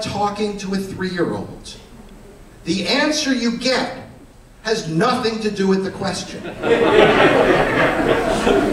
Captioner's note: laughter